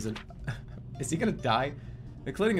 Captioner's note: chuckles